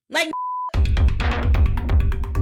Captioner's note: beep; upbeat music